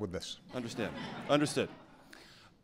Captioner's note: laughter